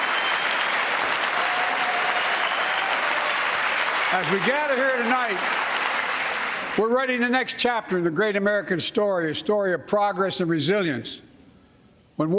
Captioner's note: cheers and applause